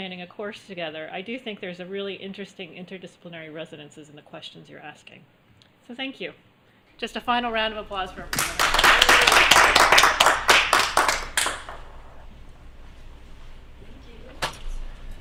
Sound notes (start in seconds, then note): 8.3 applause